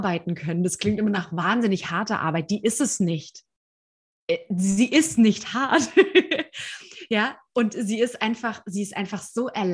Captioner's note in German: lachen